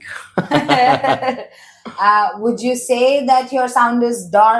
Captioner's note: laughs